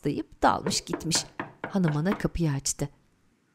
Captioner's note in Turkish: Kapı vurma sesi